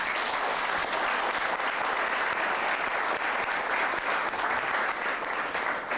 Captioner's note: applause